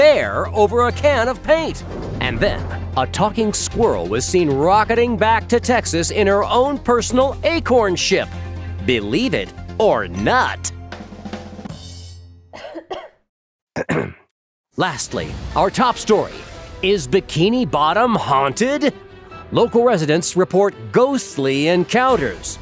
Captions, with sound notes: over a can of paint. And then a talking squirrel was seen rocketing back to Texas in her own personal acorn ship. Believe it or nut . [coughing] [clearing throat] Lastly, our top story is Bikini Bottom haunted? Local residents report ghostly encounters.